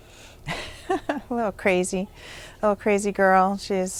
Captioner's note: laughs